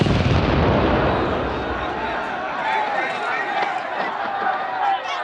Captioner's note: rockets firing, exploding; protesters clamoring